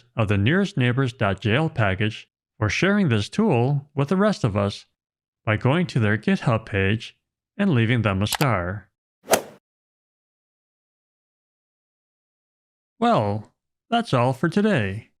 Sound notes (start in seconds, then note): 9.3 golf ball hit sound effect